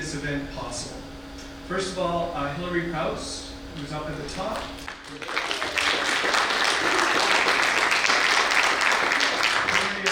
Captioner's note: audience applause